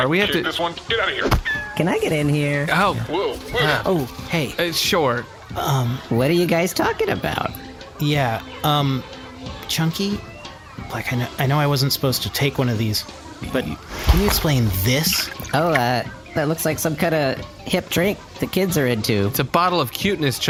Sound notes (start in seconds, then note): 3.8 irritated; 9.4 whispering